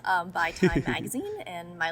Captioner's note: Hyram laughs